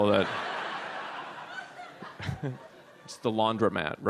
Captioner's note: audience laughs